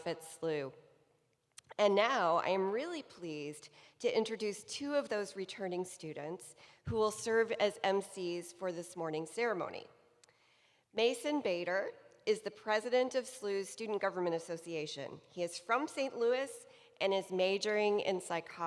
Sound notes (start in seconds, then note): none